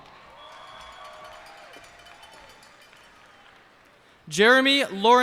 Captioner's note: cheers and applause